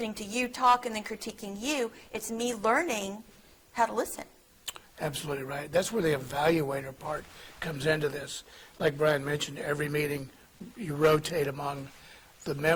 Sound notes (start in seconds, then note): none